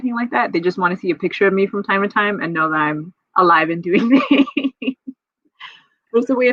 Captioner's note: laughs